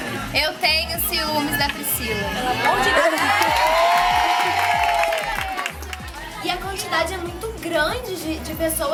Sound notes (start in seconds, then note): 3.0 applause